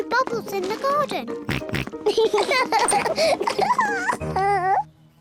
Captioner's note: oinks; both oink and laugh